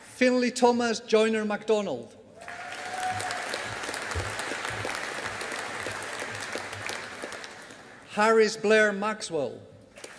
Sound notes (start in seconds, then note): 2.4 audience applauding